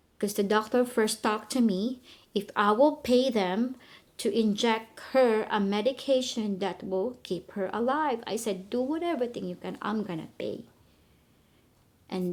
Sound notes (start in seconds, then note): none